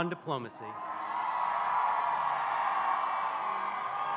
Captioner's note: audience cheering